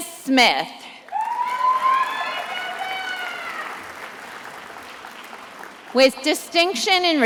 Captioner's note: attendees applauding and cheering